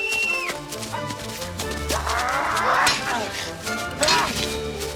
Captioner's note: screams